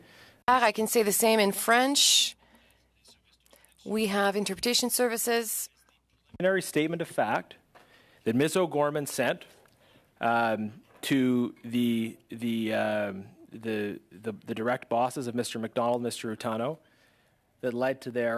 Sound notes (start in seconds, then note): 3.1 speaking French